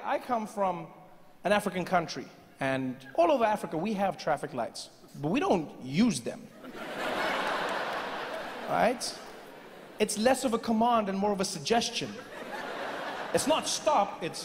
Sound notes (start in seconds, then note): 6.6 audience laughing; 12.2 laughing continues